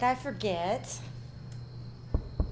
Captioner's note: insects chirping; door knocking